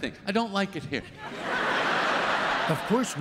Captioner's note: laughter